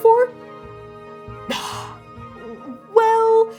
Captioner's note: defeated exhale